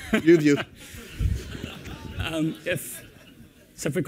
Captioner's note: laughter